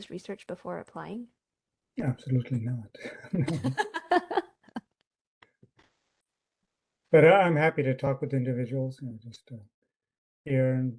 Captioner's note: laughter